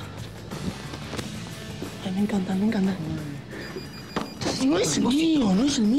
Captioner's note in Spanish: el telefono suena